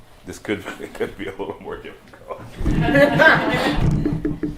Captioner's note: laughter